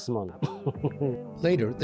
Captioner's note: laughter